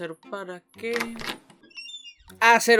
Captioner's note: door opens